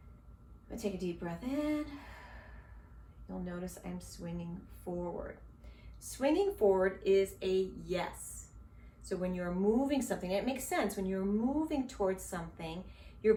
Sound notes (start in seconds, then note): 1.9 inhales slowly